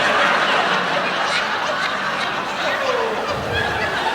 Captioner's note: laughter